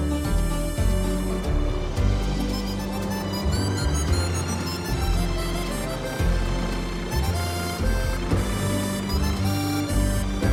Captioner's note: tractor engine